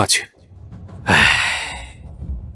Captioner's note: sigh